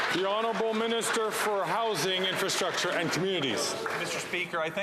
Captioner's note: some Applause